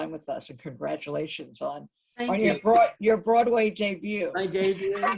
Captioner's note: laughs